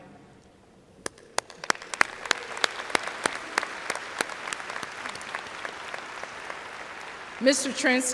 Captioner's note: applause